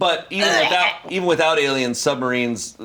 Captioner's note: retches